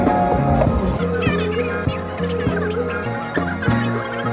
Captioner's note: much talking